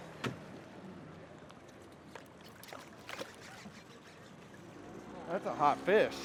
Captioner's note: reel cranking